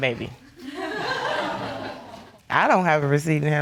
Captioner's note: audience laughing